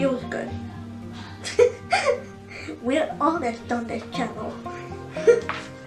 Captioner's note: laughs